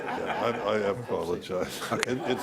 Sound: audience laughs

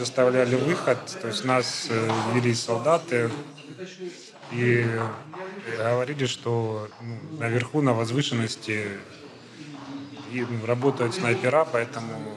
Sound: Ukrainian

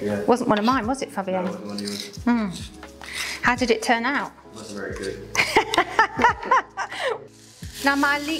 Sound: laughter

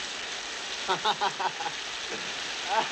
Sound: chuckles; both laughing

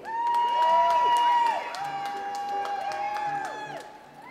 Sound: audience applauds

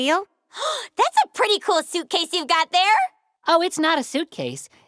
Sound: gasps

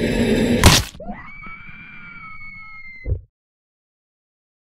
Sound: screams loudly

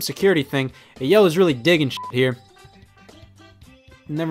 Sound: beep

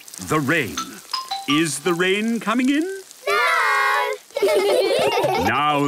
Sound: laughter

